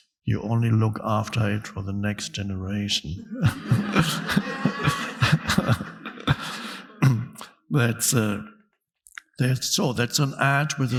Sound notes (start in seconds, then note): 3.2 audience laughing